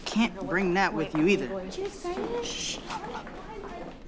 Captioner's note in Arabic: همسات